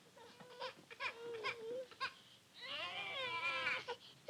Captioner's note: babies crying